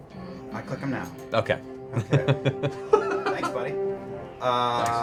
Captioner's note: laughter